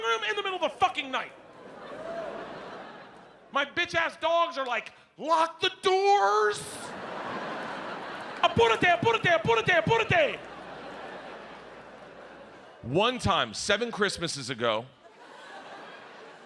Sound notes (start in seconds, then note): 1.3 audience laughs; 8.5 Bert speaks in foreign language